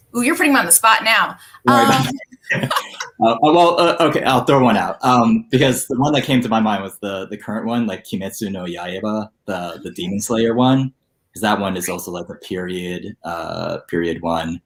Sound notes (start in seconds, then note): 1.7 both laughing